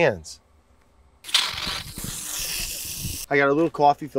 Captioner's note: water spraying